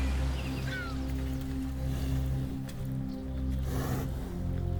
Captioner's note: cow gasps